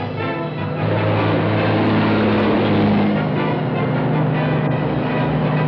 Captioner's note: truck accelerates